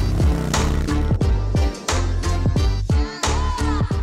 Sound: motorbike roaring

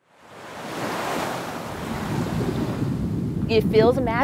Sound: water rushing

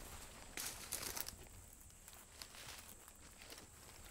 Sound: grass crunching

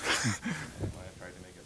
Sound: chuckling

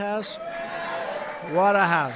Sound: applause

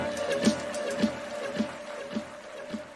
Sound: cheers and applause

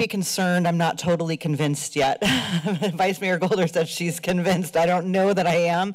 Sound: laughs

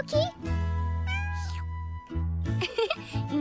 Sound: meows; giggles

